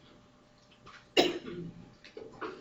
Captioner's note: student coughs